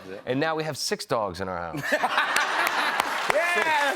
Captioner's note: laughter